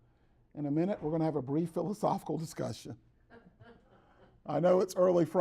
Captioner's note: laughter in the background